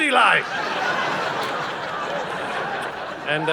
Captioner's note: audience laughing